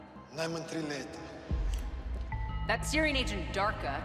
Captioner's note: man responds in a foreign language